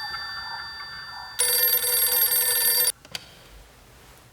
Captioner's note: ring